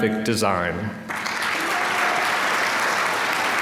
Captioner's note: applause